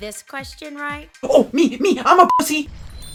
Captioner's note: beep